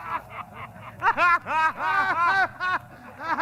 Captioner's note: laughing